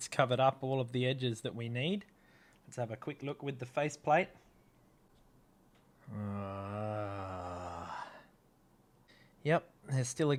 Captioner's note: groans